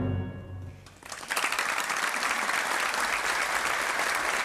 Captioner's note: audience applauding